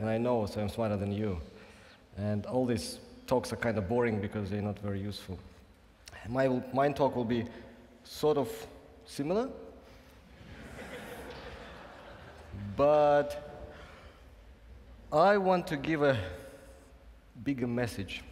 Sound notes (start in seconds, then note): 10.5 laughing